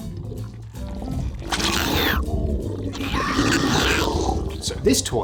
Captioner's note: friendly little possessed torso noises